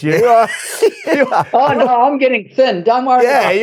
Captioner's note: laugh